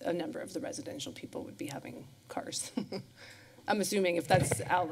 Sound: laughs

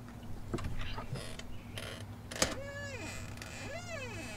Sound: door squeaking

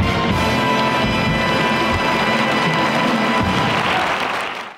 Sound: audience applauds

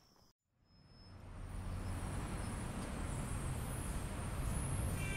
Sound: street din

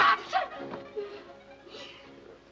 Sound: sobs

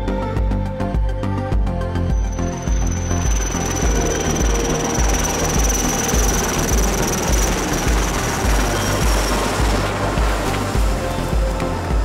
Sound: helicopter

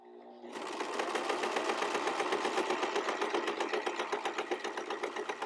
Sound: sewing machine clattering

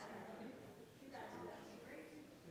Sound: none

